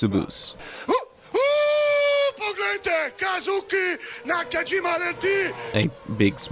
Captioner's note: screaming in Slovenian